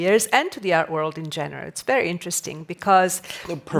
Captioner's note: none